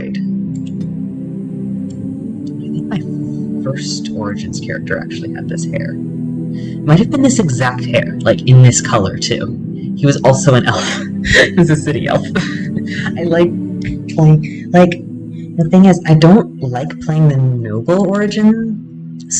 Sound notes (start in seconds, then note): 11.1 laughter